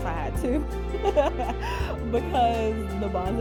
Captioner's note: laughing